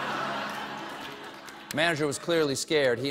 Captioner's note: laughter